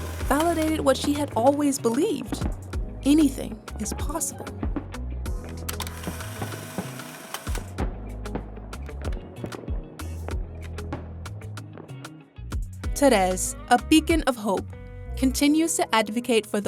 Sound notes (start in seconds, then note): 5.6 camera shutter whirs; 6.0 upbeat music